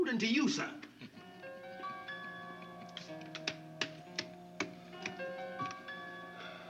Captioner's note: clapping; tense music